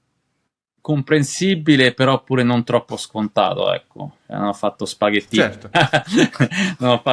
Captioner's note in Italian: risate